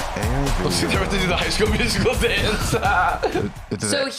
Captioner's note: laughs